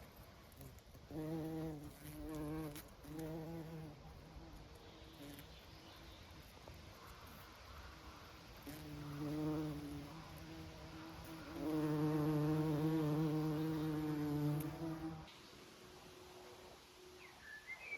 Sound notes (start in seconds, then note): 8.6 bees buzzing